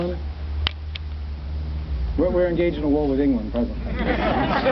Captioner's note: audience laughs